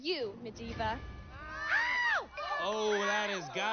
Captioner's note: screams